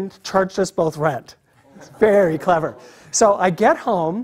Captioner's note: laugh